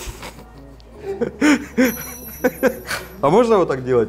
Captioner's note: giggles